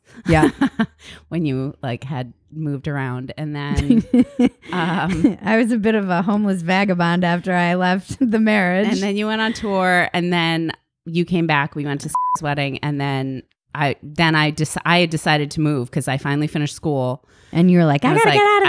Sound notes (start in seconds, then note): 12.1 beep